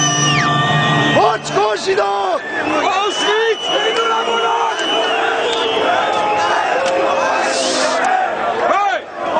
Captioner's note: crowd